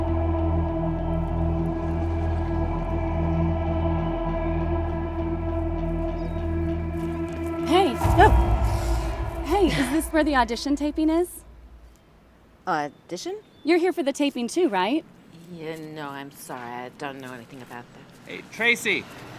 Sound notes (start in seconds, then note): 5.6 grass scrunching; 8.6 Rachel startles